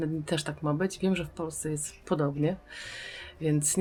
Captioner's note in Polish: wciągnięcie powietrza